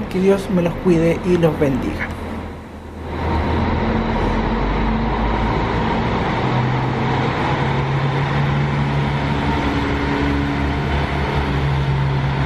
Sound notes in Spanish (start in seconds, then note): 3.3 sonido ambiental del bus yéndose